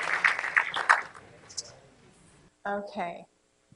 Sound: applause

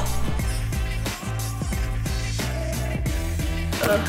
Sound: blowing sound

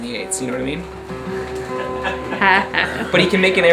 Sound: sounds of laughter

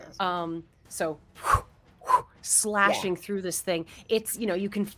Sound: mimics whoosh

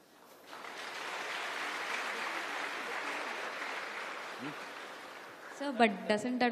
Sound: applause

